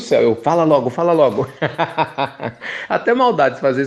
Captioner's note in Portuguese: Risos